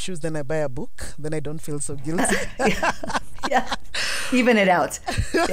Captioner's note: both laugh